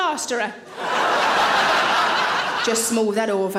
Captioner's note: audience laughing